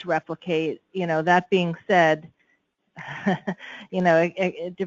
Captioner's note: chuckles